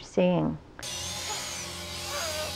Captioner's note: trembling